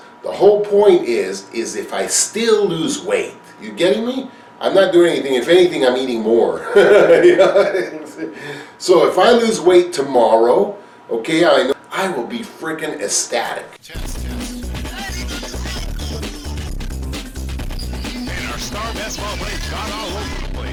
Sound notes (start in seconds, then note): 6.6 laughter; 13.8 background music with talking lyrics